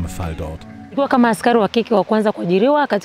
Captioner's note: she speaks her language